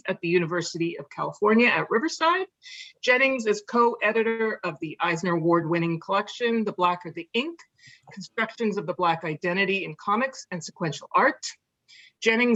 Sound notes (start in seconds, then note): none